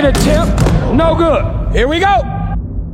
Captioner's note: dunk sound